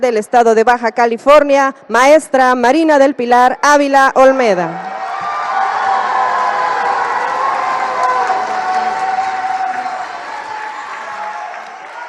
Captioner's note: applause